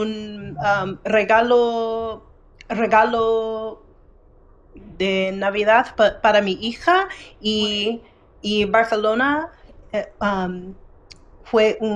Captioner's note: speaking in foreign language